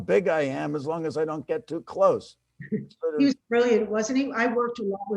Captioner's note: chuckles